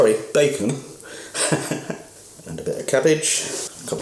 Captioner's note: laughs